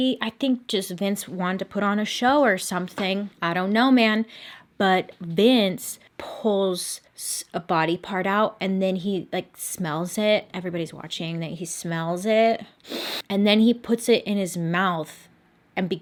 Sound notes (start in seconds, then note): 12.8 sniffs loudly